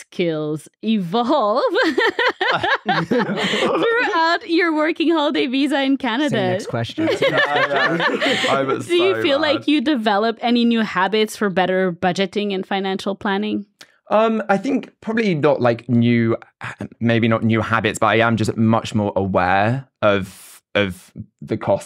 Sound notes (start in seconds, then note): 1.6 laugh; 7.0 everyone laughs